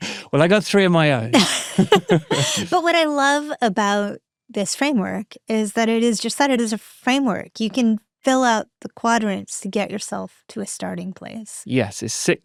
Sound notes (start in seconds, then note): 1.0 chuckles; 3.2 both chuckling